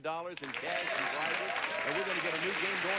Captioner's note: audience applauding